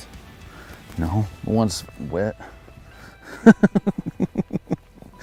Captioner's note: laughs